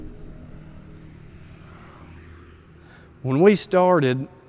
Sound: car engine running

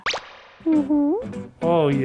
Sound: pop sound effect; playful music

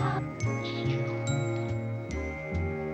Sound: slurping

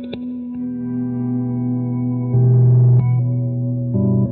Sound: reverb echo

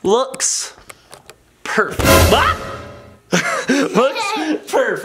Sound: suspense sound effect

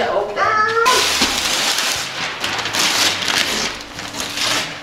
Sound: paper rustling

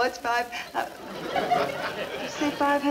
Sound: audience laughing

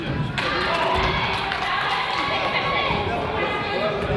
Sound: crowd applauds

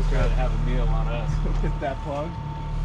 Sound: chuckling

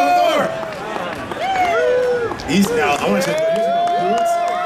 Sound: audience cheers

